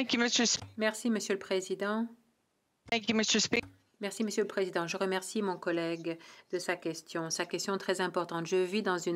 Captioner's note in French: voix de l'interprète